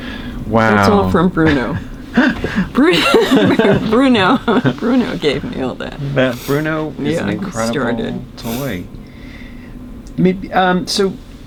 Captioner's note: laughter